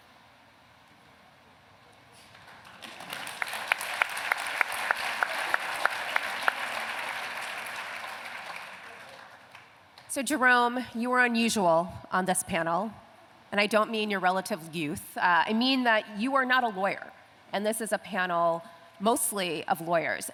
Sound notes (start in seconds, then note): 2.2 applause